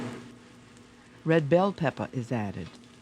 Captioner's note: voiceover